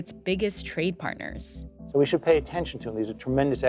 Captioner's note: soundbite of archived recording